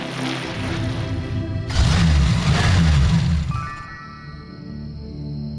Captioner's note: loud engine revving